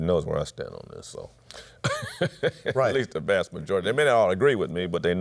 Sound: laughs

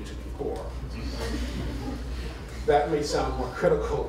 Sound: laughter

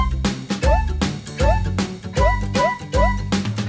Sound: boings

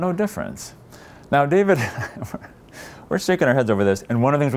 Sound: laughs

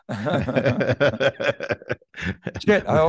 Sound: both chuckling

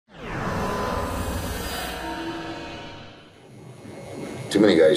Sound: logo whooshing and buzzing

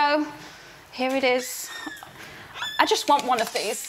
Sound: door squeaks

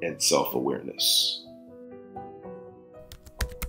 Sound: typing sound effects

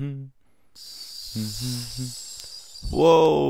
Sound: snake hissing and character humming

